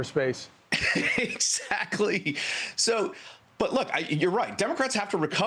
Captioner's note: laughter